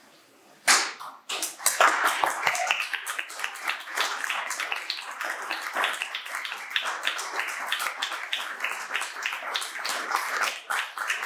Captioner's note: audience applauding